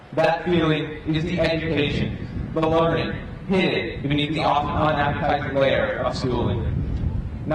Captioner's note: none